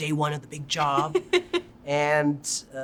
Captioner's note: chuckling